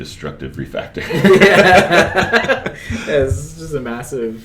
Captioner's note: laughter